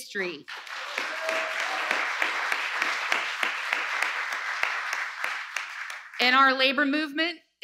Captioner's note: applause